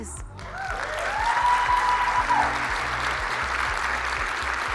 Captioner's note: audience cheers